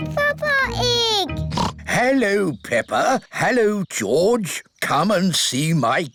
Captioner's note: oinks